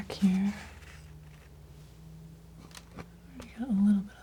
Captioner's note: scratching